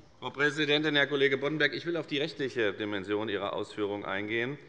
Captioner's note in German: none